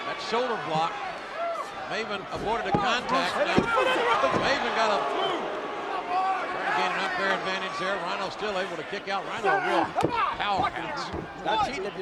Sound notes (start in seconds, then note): 2.9 crowd boos